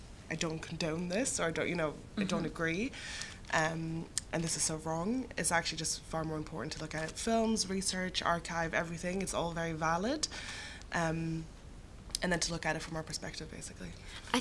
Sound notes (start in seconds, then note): none